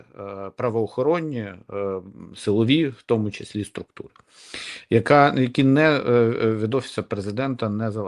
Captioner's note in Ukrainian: сопіння